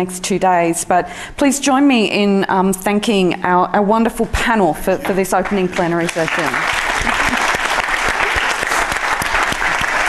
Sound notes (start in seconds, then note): 5.4 applause